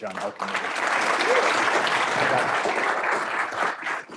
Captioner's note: applause